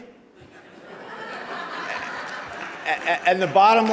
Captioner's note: audience laughter